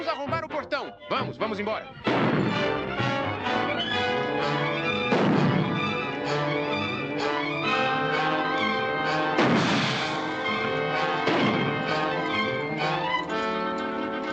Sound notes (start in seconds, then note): 2.4 tense music; 9.2 gunshots